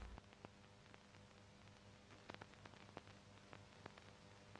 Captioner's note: truckling sound